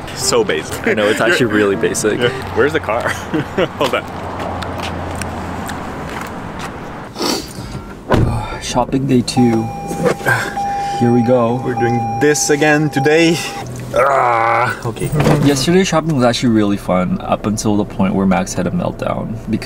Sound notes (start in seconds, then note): 13.9 groans